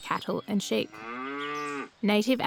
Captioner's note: cow moos